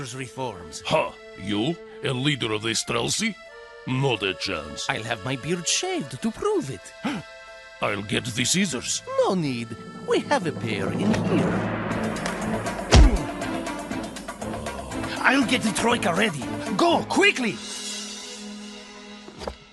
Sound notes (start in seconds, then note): 7.0 gasps; 14.4 guard groans